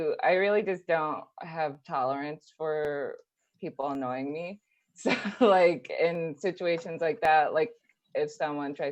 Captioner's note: laughs